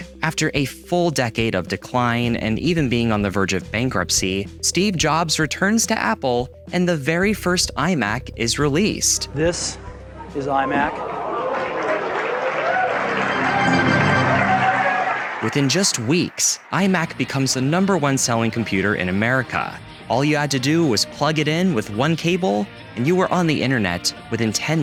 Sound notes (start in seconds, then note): 10.8 crowd gasping; 12.8 computer startup sound; 14.7 applause